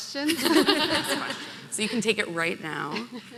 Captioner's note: laughing